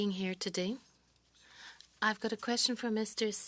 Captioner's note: speaking French